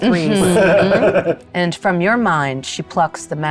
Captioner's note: chuckling